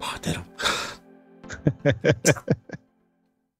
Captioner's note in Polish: śmiech